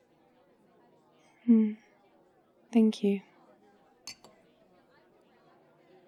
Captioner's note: wine glass on table